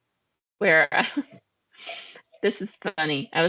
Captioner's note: laughing